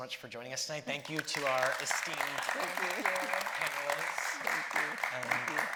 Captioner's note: audience applauding